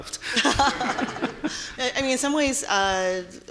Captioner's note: audience laughing